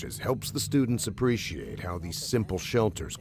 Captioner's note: voiceover